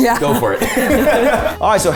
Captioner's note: everyone laughing